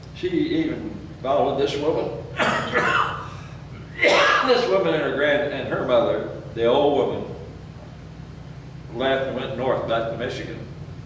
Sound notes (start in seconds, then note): 2.3 coughs